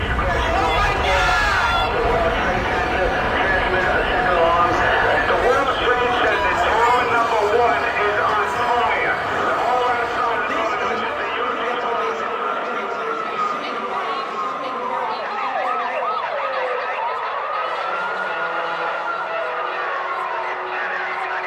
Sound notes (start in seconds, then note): 9.1 indistinct clamoring; 9.1 sirens wailing; 15.3 sirens wailing; 20.9 police scanner chattering; 20.9 sullen music